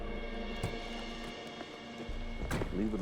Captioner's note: car door opens, closes